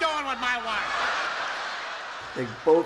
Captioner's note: audience laughs